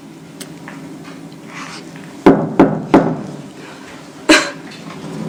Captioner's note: knock on door